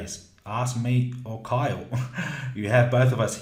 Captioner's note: laughing